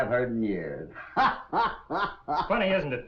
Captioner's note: hoppy laughter